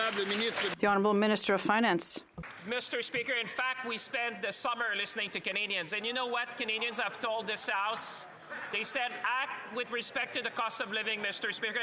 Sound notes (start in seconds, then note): 4.9 speaking French; 5.0 some Applause